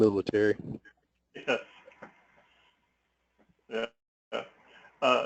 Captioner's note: laugh